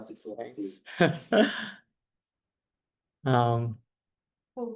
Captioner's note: laughter